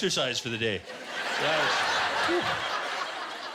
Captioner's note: laughter